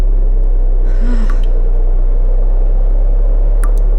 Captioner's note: MEGATRON sighs